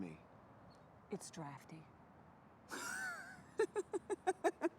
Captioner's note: Isabel laughing